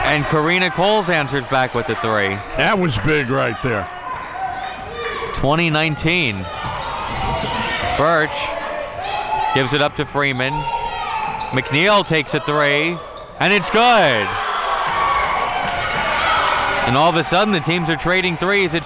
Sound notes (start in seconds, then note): 13.4 audience cheering